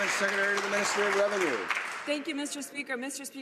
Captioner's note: some Applause